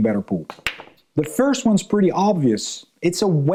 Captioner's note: pool balls clanking